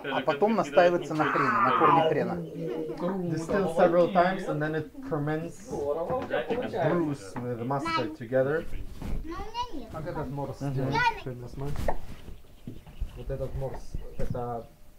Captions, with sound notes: Distilled several times and then it ferments (speaking foreign language) the mustard together. (people speaking foreign language)